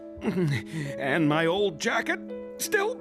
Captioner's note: grunting